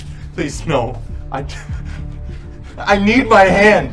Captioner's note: laughs